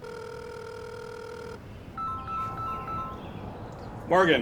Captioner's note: phones ringing